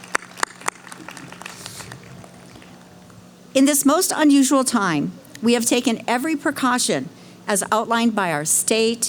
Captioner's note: cheering